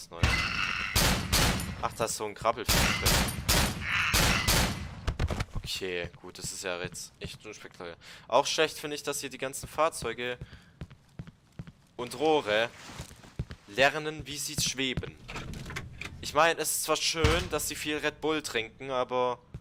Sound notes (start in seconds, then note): 0.2 Enemy Roar followed by Glock 17 shots; 4.1 6 more Glock shots